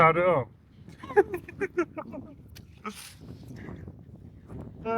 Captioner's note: laughing